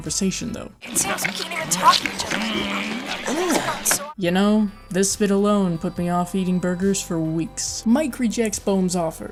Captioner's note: gross eating sounds